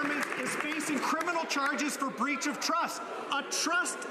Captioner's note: some Applause